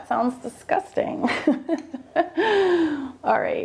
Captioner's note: laughing